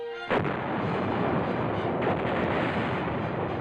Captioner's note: tank fire and explosion